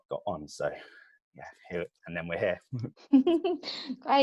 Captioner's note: laughs